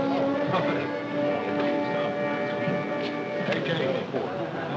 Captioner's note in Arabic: ثرثرة